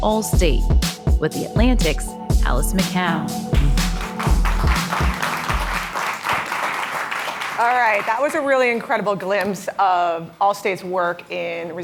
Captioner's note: applause